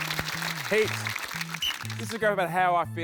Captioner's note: applause; blows whistle